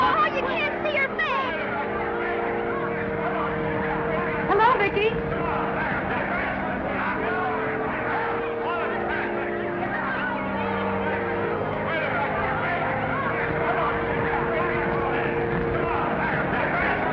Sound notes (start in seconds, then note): 5.6 reporters chattering; 5.6 somber music